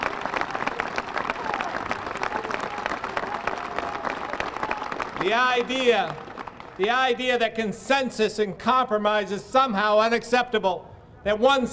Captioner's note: applause